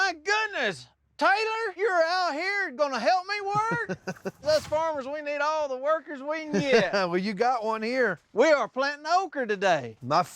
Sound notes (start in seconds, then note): 3.4 chuckling; 6.5 chuckling